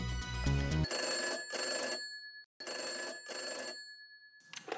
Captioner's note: phone ringing